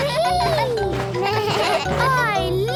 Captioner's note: giggles; bleating